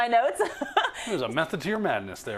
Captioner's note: laugh